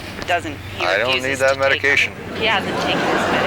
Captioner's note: audience laughing